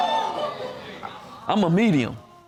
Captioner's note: audience exclaiming